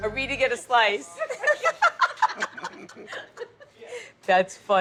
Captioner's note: people laughing